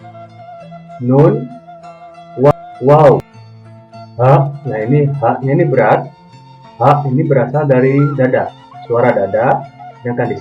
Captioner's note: chest voice